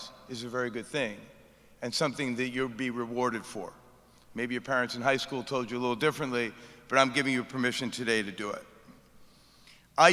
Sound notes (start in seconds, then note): none